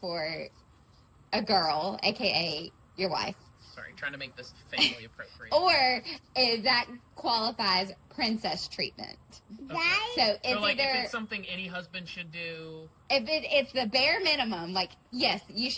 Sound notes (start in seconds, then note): 4.7 laughs